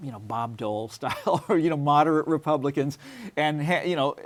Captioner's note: laughs